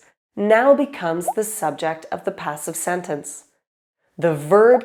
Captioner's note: none